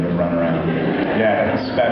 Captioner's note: laughs